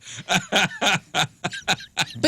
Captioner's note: laughing